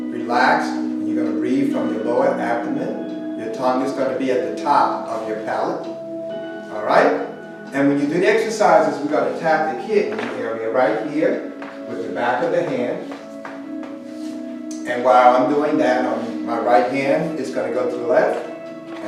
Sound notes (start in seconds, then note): 10.1 slap